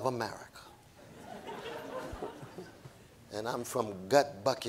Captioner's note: audience laughing